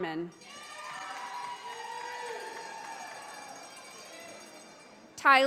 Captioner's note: audience applauding